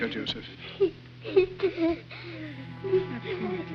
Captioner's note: children sobbing